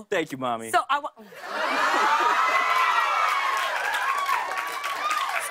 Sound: cheers and applause

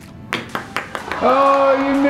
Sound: ball clacks; disappointed crowd

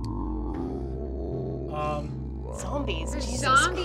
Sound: tense music; zombies growling

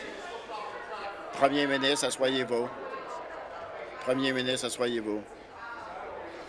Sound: voice trailing

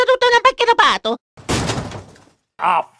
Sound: italian gibberish; thud

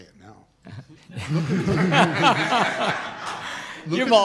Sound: laughter

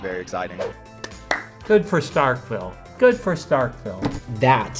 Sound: claps

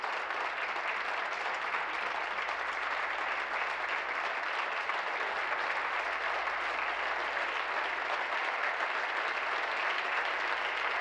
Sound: applause

